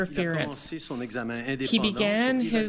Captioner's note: speaking French